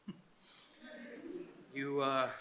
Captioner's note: Jefferson chuckles nervously